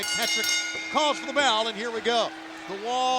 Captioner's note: bell rings